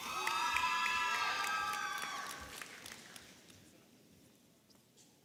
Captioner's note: audience applauding and cheering